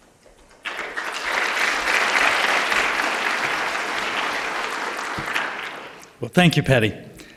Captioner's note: applause